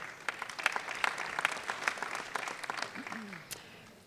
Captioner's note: audience clapping